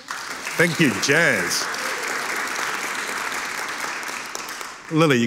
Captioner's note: audience applauding